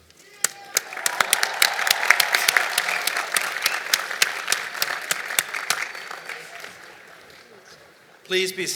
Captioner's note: applause